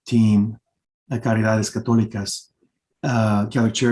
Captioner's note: speaking Spanish